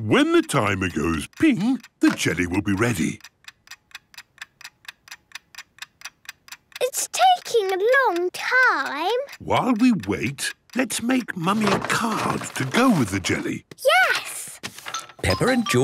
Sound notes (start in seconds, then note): 4.1 ticking